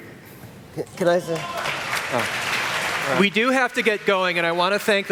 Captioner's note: applause